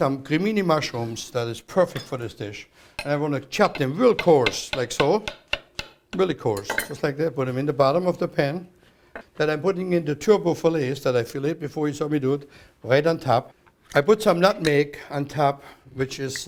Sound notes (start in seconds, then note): 4.1 chopping